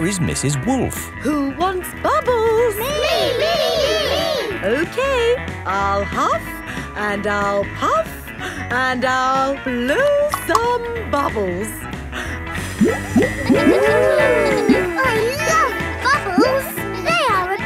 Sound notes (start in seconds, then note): 14.1 kids gasping and laughing